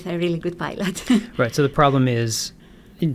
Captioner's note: chuckles